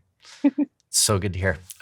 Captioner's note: chuckling